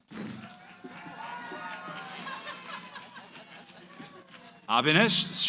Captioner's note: cheering